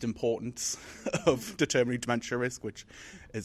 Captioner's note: laughs